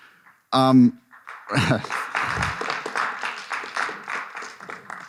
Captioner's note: audience applause